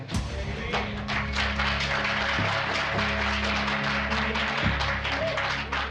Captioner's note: applause